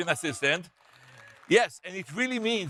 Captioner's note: audience members cheer; audience members applaud